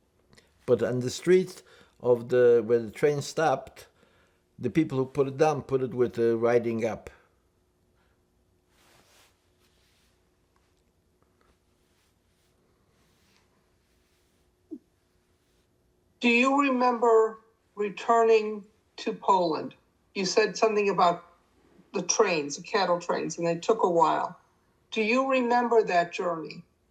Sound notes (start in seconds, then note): 7.5 pauses 8 seconds